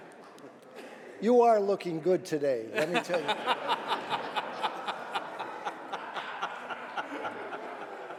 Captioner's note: laughter